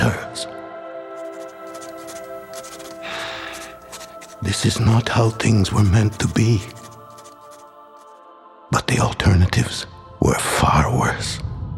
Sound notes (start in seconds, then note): 1.0 quill scratching; 1.1 parchment rustling; 3.1 sighs